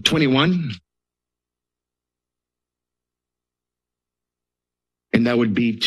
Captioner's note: silence